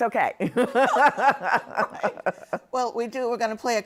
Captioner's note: laughter